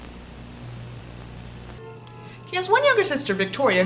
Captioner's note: Static